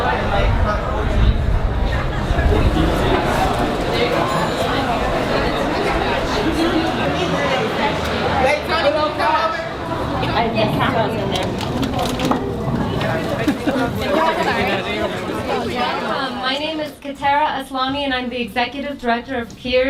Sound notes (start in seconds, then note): 6.6 chatter